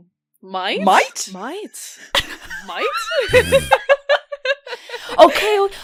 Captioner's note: laughter